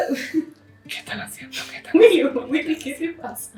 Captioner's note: whisper